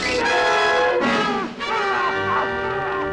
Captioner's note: yells